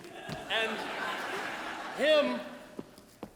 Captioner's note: audience laughs